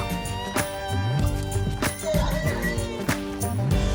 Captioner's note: horses neighing